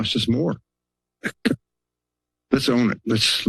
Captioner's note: laugh